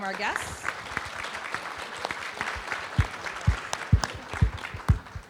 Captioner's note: audience applauding